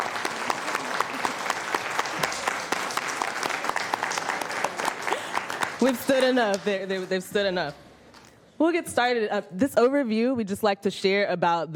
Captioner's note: applause